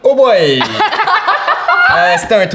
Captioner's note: laughter